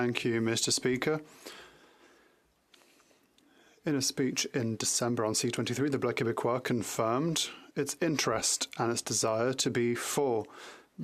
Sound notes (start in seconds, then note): 0.6 speaking French